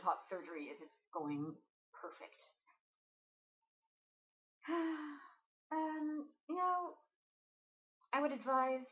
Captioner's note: sigh